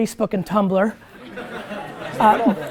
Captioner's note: students laugh